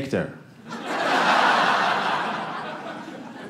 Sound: audience laughing

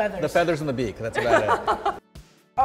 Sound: laughs

